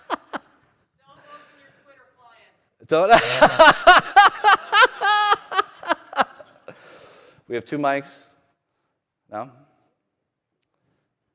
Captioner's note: laughter